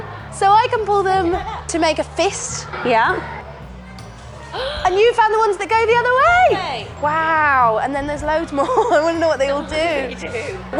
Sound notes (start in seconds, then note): 4.4 gasps